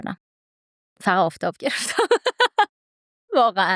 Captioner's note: laughs